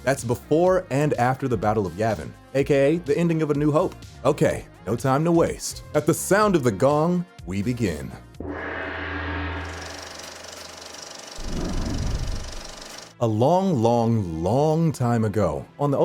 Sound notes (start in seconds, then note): 8.4 gong twangs; 9.6 film reel clicking